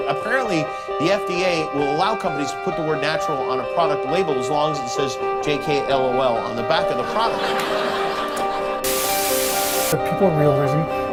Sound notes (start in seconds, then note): 7.0 laughter